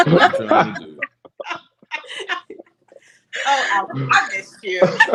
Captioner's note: laughter